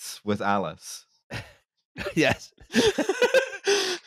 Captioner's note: laughter; laughing